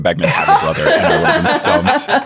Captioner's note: everyone laughing